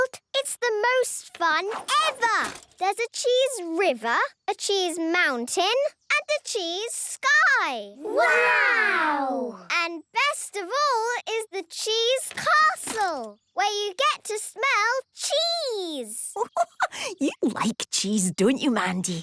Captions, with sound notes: - It's the most fun ever! There's a cheese river, a cheese mountain, and a cheese sky! - Wow! - And best of all, is the cheese castle, where you get to smell cheese! - (giggling) You like cheese, don't you, Mandy?